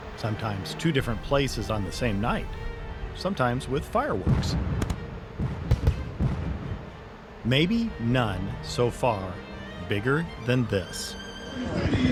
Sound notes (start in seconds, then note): 4.6 tense dramatic music; 5.4 fireworks bangs and pops